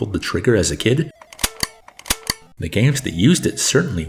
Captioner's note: sound of zapper